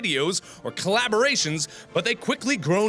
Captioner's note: gasp